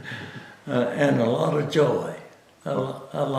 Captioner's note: laughs